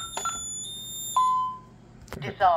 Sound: keypad beeps x5; bong!

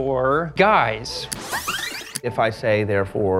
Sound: tape rewinding

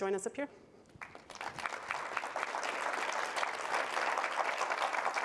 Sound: audience applause

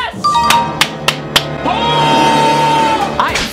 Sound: claps

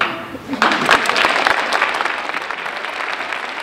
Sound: applause

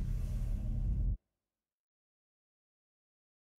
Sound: silence

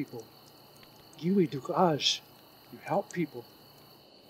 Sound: speaking in foreign language

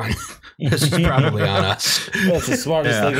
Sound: laughter

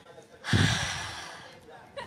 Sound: deep breath

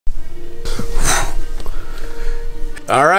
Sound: sighs

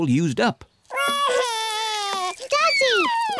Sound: wails

